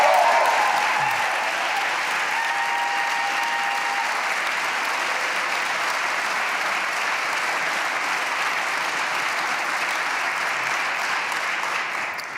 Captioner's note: applause